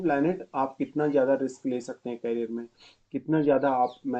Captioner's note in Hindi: नाक से की जाने वाली आवाज़